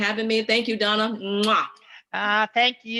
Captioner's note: smooches